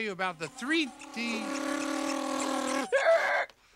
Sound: Bean revving; Bean screeching

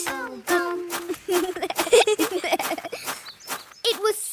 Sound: both giggling

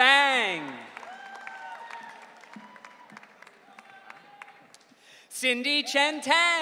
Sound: audience cheering

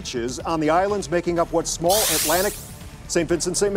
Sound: buzzing

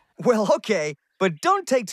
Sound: chuckles

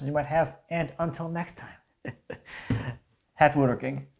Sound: chuckles

